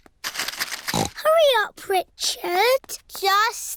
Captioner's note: snorts